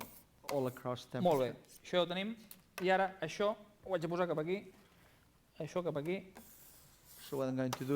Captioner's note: non-english speech